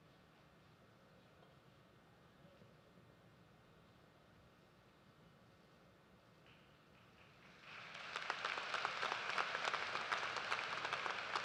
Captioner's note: applause